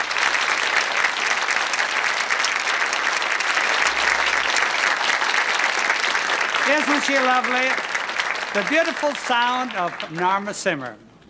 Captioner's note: applause